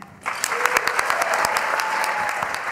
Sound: applause

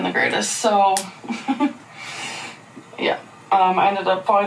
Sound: chuckles

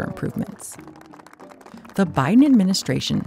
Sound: clapping

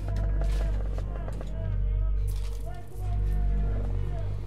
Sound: men shouting

